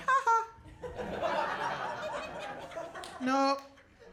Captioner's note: audience laughing